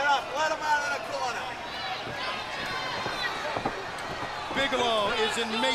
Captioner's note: crowd cheering